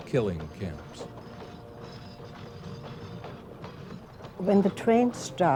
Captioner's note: train carriages rustling on the train tracks